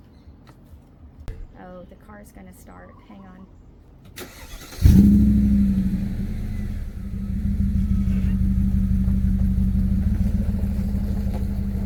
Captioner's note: neighbor's car starts and is running